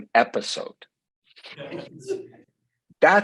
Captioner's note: audience chuckling